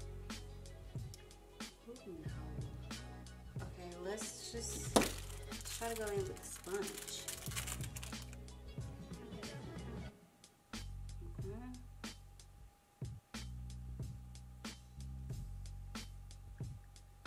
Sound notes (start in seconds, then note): 6.7 plastic wrap tearing; 10.7 rhythmic music